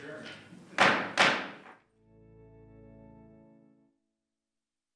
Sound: gavel banging

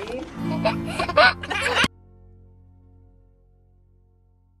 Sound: laughing

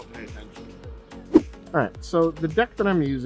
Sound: air whooshing

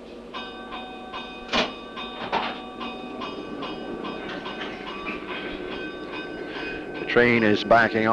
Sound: train crossing bell

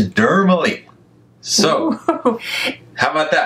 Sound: giggles

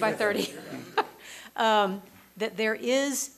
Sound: laughs

